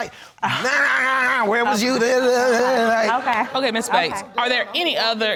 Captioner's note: imitating nagging